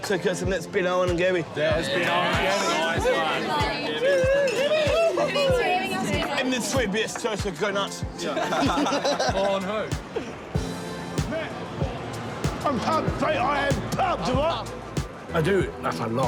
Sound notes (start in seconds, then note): 1.7 all cheer; 8.2 laughter